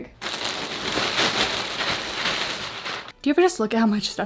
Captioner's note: bag rustling